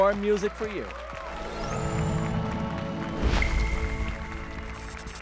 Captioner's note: applause and cheers